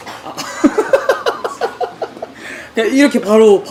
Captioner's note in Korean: 웃음